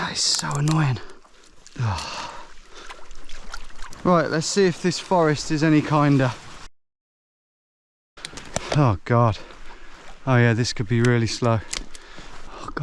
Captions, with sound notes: That is so annoying. Ugh. (water trickling) Right, let's see if this forest is any kinder. Oh, God. Oh, yeah, this could be really slow.